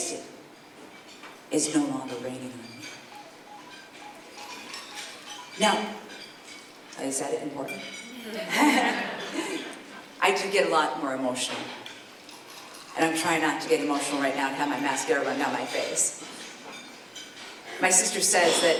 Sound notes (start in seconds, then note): 6.2 phone rings; 8.3 laughter